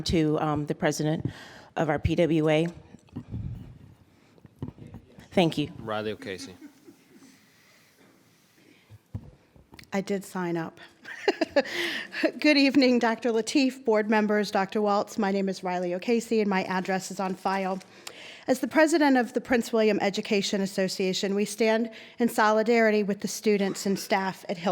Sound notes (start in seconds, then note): 10.8 laughs